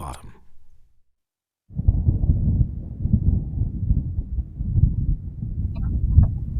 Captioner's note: ticking clock